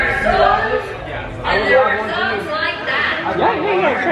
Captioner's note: robotic conversations